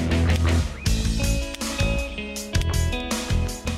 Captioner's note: gun clicks